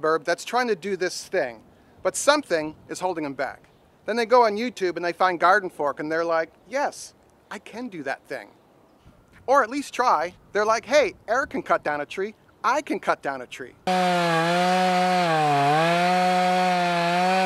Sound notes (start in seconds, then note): 13.8 saw buzzing